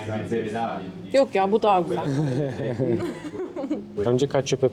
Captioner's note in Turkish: kahkaha